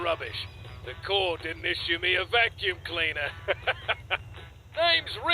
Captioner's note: chuckles